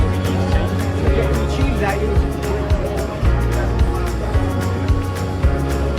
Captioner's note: people Speaking